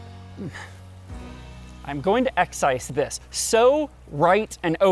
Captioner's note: sigh